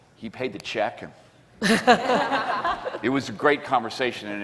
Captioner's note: laughing